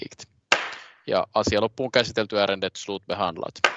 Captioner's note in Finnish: nuijan kopautus; nuijan kopautus